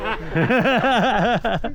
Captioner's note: laughing